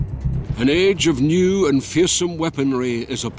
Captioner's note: Voz en off